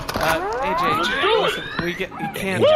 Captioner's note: together, chidingly